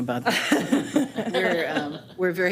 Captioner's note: board members laughing